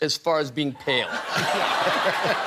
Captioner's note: laughter